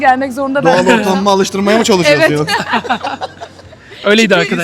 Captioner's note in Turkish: kahkaha